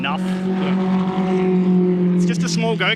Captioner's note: car engine roars